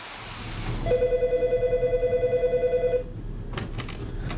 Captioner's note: phone rings